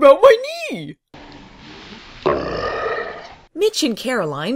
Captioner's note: slow motioned groaning